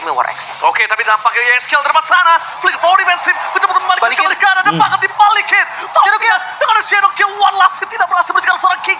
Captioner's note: laughs